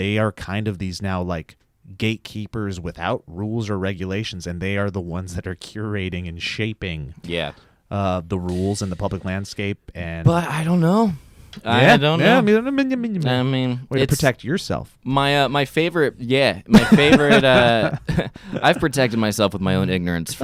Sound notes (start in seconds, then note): 12.4 mumbles in funny voice